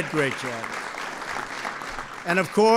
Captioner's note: applause